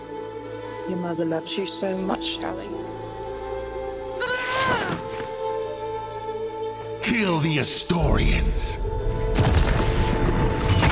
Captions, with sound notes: Your mother loved you so much, Halle. [screams] Kill the Astorians.